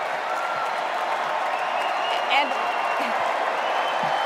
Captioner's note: cheers and applause